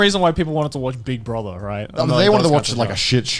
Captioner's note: laughing